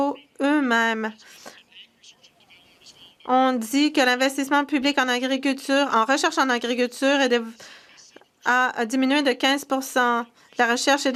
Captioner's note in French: voix de l'interprète